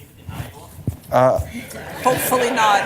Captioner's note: laughter